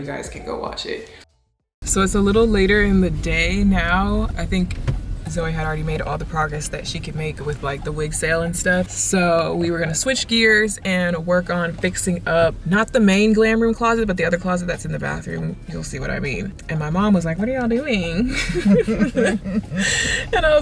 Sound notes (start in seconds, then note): 18.2 chuckles